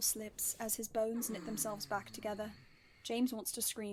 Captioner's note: Sirius groans